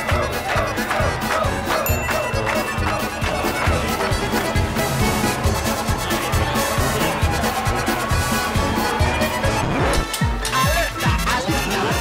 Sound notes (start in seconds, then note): 1.8 bell dings; 2.5 crowd chants and claps; 9.4 record scratches; 10.5 intense dance music; 11.8 crowd gasps